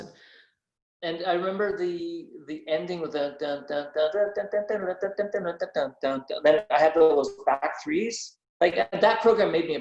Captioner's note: hums tune